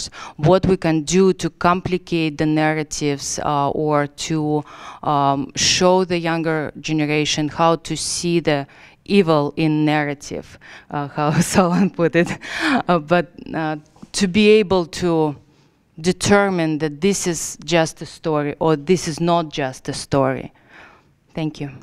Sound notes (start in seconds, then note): 11.6 laugh